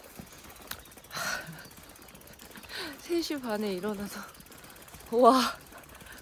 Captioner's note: laugh with sigh